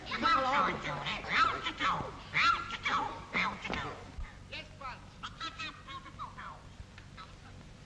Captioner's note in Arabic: الدمية تصدر صوتًا غريبًا